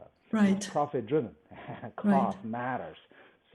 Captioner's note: laughs